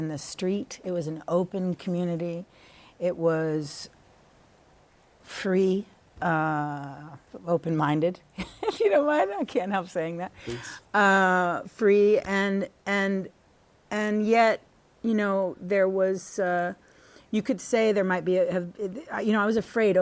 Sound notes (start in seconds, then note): 8.3 laughter